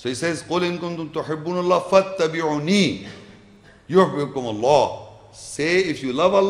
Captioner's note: Arabic